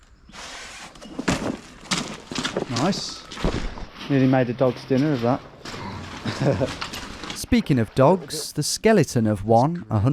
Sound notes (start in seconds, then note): 1.3 feet stomping; 5.7 chuckles